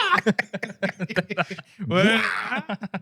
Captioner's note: laughing